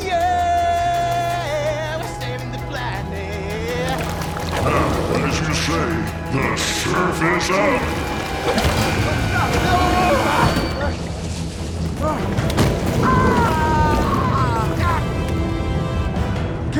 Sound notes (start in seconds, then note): 8.9 Shaz and Walter shouting; 14.4 intense music continues